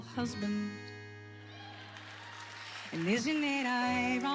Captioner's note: whoops and applause